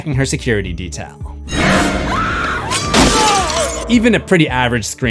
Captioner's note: screams